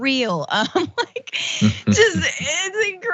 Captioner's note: laugh